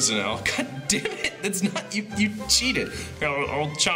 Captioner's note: laughing